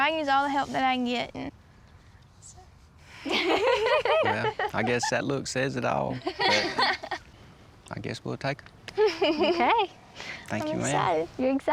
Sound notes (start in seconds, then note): 3.3 everyone chuckles; 6.1 chuckles